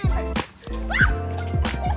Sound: screams & laughs

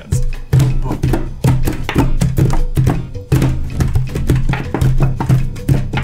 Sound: hands thumping on table

